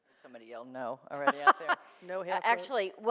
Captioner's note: laughs